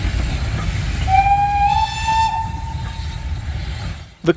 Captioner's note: whistle